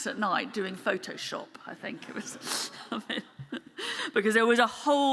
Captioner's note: chuckles